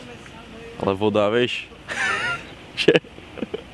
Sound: laugh

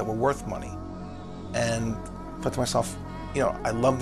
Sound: none

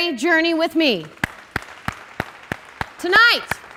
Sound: clapping

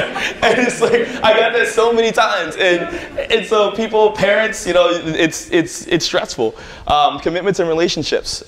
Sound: laughter

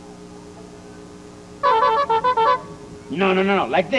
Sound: honking sounds

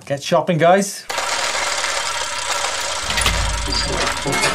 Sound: wheels screeching

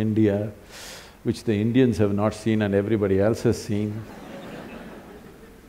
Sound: laughter

